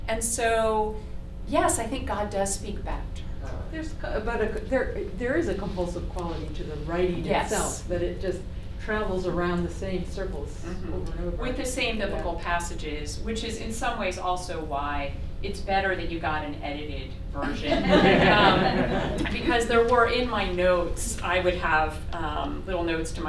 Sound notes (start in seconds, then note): 17.4 laughter